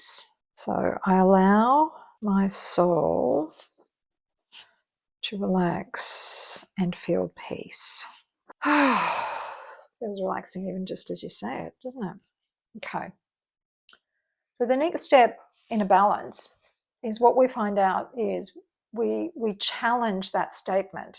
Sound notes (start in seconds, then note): 8.6 deep sigh